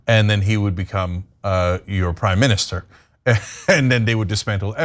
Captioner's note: laugh